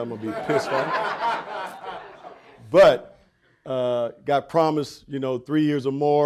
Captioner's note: audience laughing